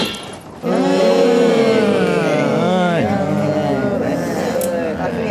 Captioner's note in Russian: очень разочарованный общий вздох